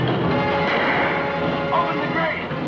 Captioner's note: gun fires